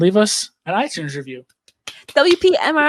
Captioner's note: claps